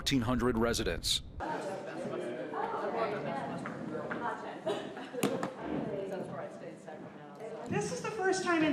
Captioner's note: people talking